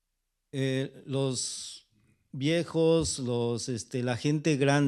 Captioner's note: speaking spanish